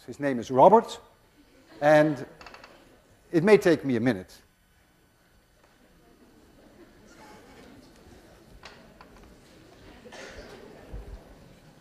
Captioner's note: class murmurs